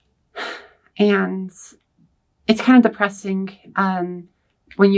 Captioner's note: sighs